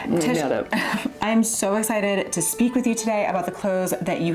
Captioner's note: laughs